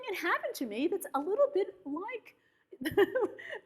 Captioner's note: laughs